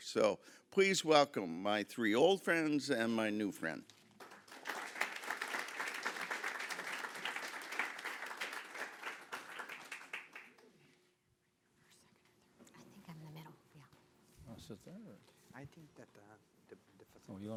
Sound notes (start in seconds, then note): 4.1 audience applauding